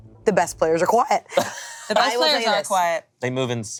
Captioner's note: laughing